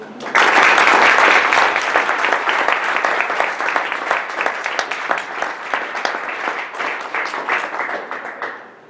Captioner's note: audience clapping